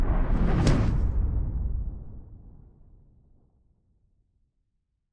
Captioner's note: hard whooshing